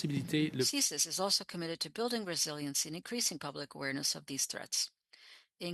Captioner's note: speaking french